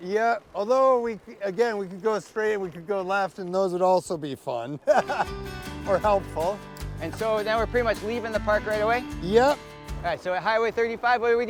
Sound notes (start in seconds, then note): 4.8 laughs; 5.0 upbeat music